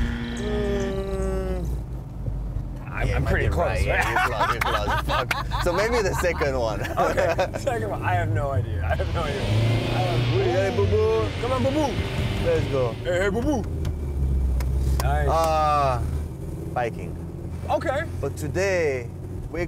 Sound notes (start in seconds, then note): 9.4 engine sounds